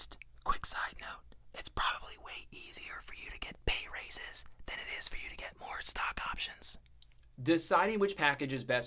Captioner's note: whispering